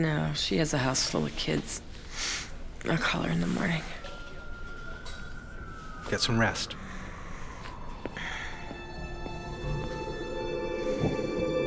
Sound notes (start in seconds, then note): 4.6 sirens wailing; 8.5 suspenseful music